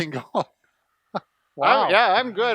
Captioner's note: laughing